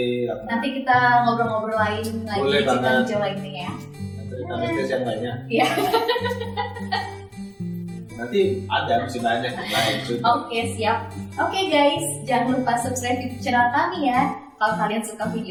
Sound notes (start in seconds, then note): 5.6 laugh